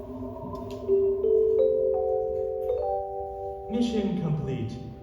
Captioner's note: computer chime